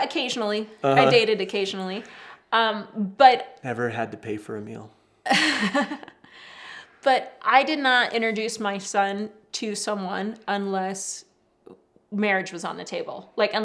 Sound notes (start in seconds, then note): 5.2 laughs